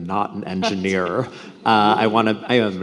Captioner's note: laughs